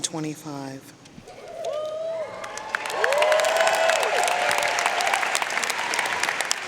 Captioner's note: audience cheering and applauding